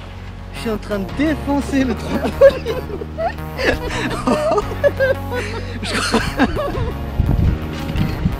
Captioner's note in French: rires